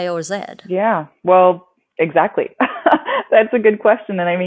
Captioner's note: laughs